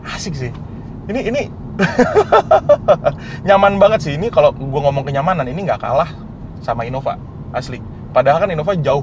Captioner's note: laughing